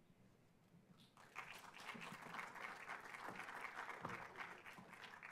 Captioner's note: audience clapping